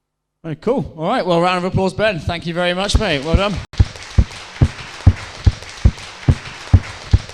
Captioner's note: applause